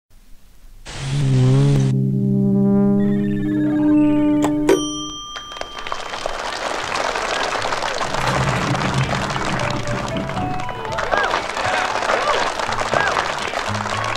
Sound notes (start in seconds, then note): 5.3 applause; 9.2 elevator music